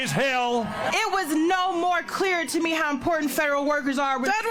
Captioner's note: cheers and applause